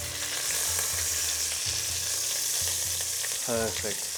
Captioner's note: sizzling sound